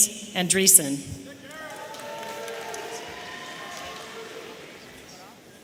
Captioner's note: audience cheering